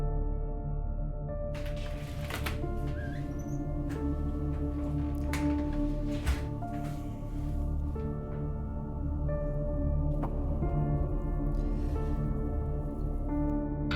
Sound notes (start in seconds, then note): 1.5 door creaking; 5.8 somber music